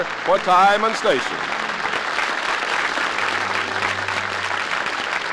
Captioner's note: applause